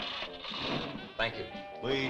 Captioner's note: engine rumbling